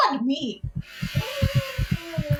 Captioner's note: C: sensual breathing; C: heart racing